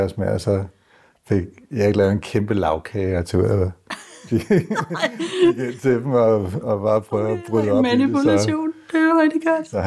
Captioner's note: laughs